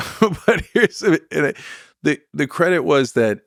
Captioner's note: laughs